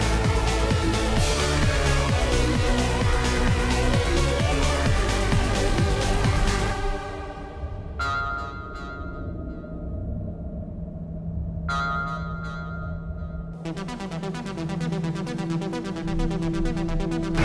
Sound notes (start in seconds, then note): 8.0 signal reverberates; 13.9 dramatic synth music